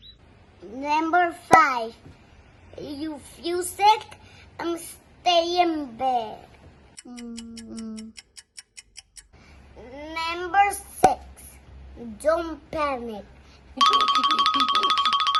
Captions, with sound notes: Number five, if you feel sick, stay in bed. Mm, mm. (timer ticking) Number six, don't panic. (breathing heavy)